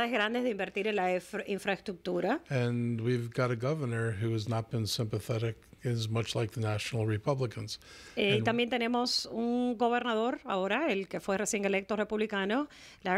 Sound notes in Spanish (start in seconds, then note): 8.1 Hablando ingl\s